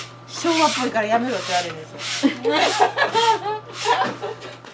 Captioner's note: laughs